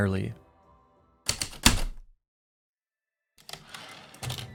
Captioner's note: heavy typewriter keystrokes, return slide